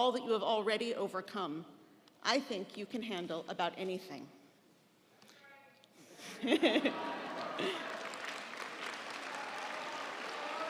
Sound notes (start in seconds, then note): 5.0 audience applauding; 6.2 laughing